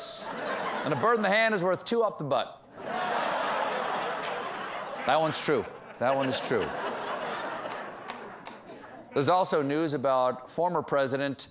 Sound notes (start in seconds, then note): 2.7 laughter